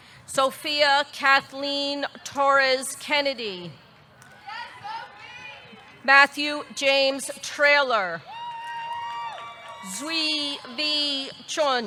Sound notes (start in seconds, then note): 8.4 audience cheering; 8.5 audience clapping